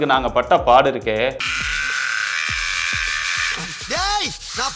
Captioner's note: severe scrubbing sound